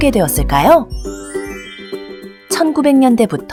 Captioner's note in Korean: 밝은 음악; 반짝이는 효과음